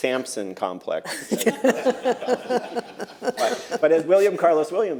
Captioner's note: laughter